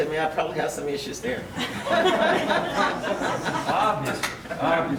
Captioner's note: audience laughs